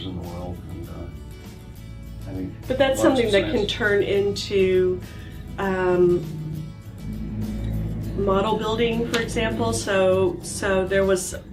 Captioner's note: pat